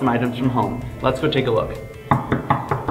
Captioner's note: knocks